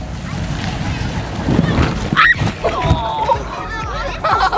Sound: kids grunting; kids laughing

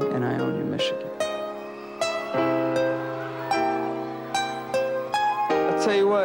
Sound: cheering

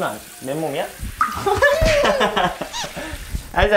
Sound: bump

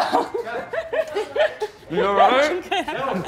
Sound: waitress laughing

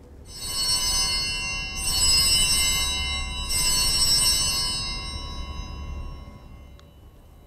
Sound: bells ringing

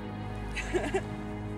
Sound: chuckling

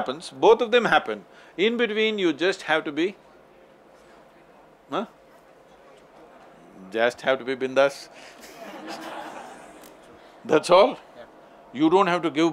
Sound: laughs

